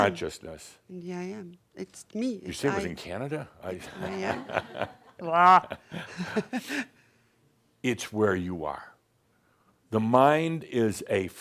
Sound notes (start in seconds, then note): 3.8 some chuckles and she chuckles